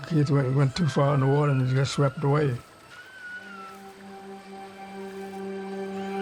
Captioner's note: child screaming